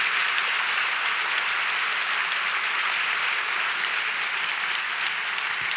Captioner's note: applause